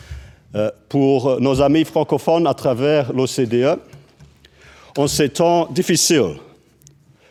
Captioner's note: speaks french